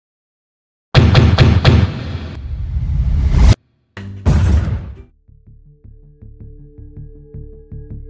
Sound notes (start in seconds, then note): 0.7 loud slamming; 4.2 abrupt explosion; 4.9 soft bass music